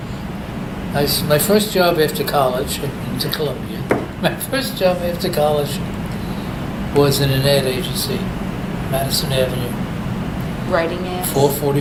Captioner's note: laughs